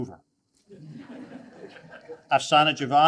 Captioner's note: attendees laugh